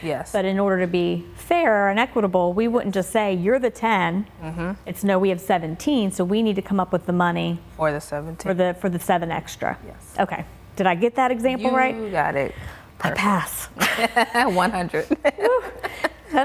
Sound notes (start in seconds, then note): 13.8 laughing